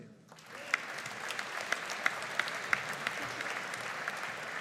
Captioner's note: audience applauding